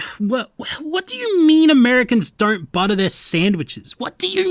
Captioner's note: sigh